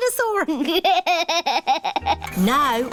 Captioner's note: chuckles